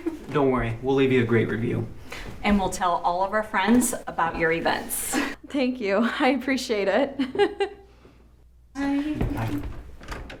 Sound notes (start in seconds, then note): 7.1 laughs